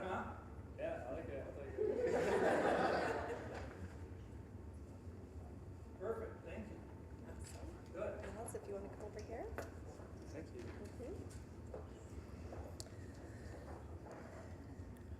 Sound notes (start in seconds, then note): 1.8 audience laughing